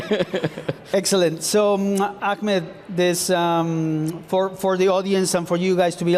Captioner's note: laughs